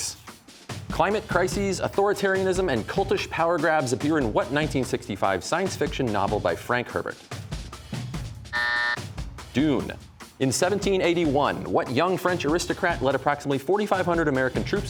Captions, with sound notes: Climate crises, authoritarianism, and cultish power grabs appear in what 1965 science fiction novel by Frank Herbert? (buzzer) Dune. In 1781, what young French aristocrat led approximately 4,500 American troops